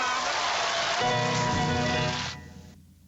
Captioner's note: cheering